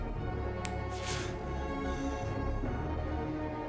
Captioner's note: fingers snap